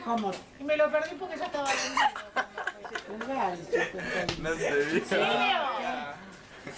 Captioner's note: Risas